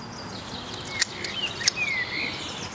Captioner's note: cutting sound